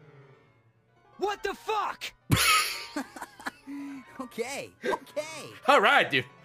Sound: laughs

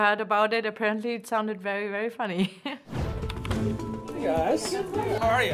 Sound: laughs

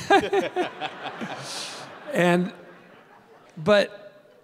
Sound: Bob and audience laughing

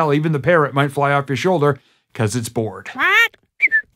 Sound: squawk!

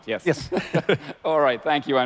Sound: laughs

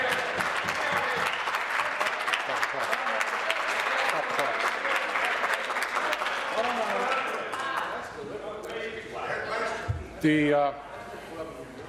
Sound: applause

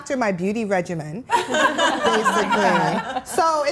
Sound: laughing

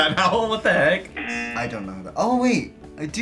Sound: buzzer

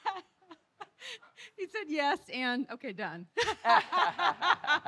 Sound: laughing

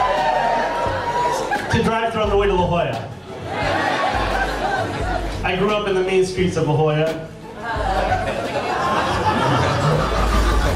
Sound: laughs

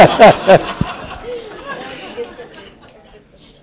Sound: laugh

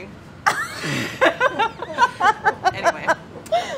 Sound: laughing

